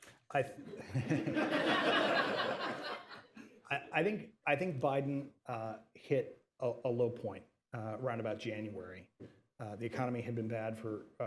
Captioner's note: laughter